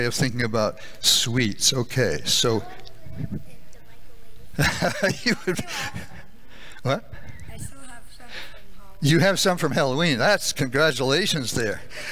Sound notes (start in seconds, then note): 4.6 laughing